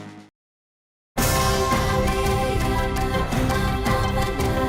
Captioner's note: humming voices